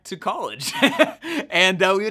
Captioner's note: laughs